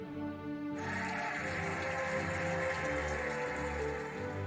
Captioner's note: cheering and applauding